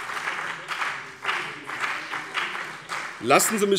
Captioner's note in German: Beifall BÜNDNIS 90/DIE GRÜNEN und vereinzelt CDU